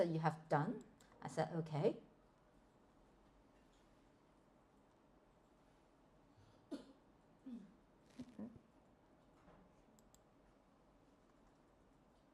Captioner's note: click